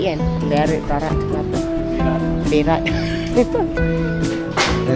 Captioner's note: laugh